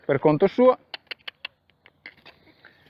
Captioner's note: cluck